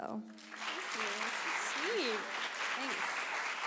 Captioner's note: clapping